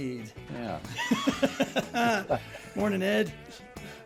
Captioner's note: laughing